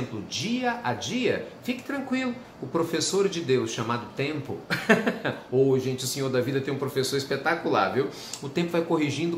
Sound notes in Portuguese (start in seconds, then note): 4.7 risos